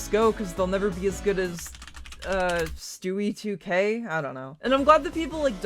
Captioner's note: typing sounds